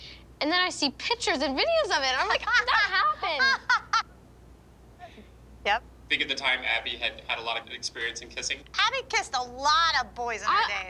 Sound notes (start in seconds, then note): 2.1 laughing